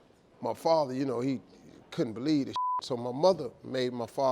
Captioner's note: beep